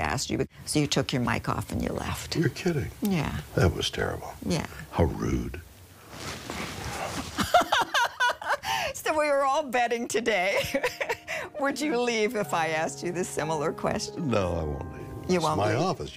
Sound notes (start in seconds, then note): 8.3 Sandie laughs